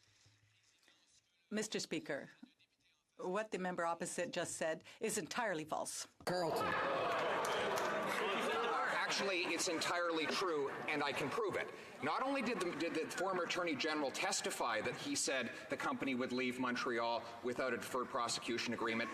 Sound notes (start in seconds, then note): 3.3 speaking French